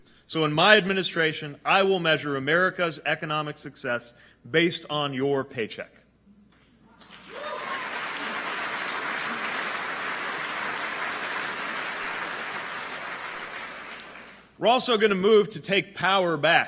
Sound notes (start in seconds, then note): 10.8 applause